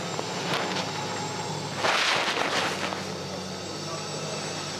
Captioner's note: loader engine roaring